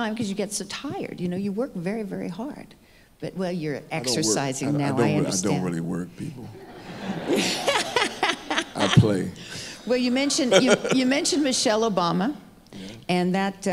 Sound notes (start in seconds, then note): 6.3 audience laughing; 8.0 laughs; 10.5 laughs